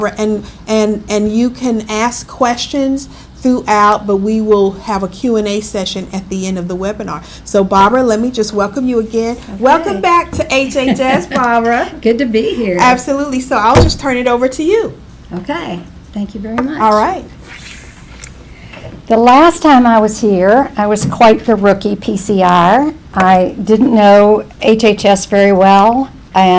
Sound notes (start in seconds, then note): 10.7 laughs